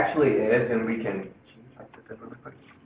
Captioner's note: whispers